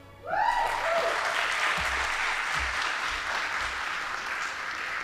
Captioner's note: audience applauding